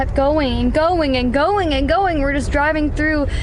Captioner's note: none